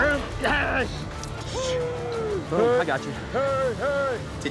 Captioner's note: cowboys shouting